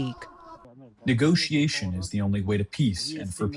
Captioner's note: through translator